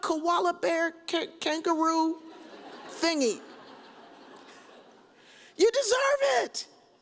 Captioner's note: audience chuckles